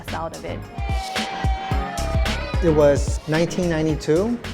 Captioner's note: cheering